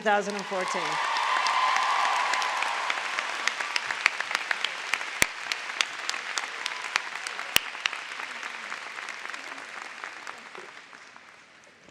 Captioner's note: applause